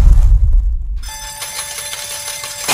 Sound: slot machine warbles down

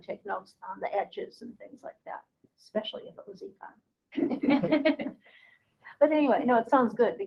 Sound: laughing

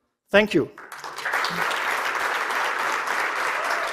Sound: applause

